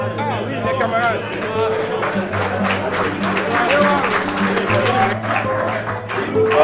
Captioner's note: cheers